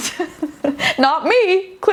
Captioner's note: laughing